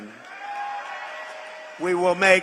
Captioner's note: applause